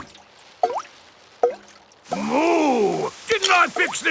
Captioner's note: water dripping